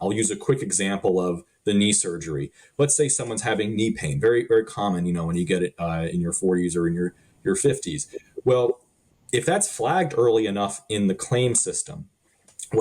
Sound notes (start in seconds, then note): 8.4 laughing